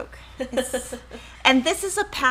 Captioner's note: laughing